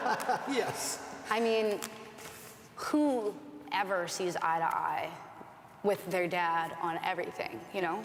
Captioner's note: laughter